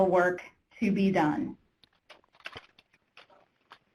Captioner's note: typing